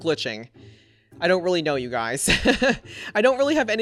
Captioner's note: laughs